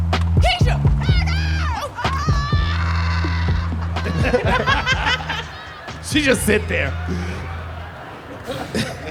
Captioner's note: soundbite of thumping